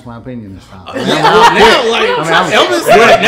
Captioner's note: laughing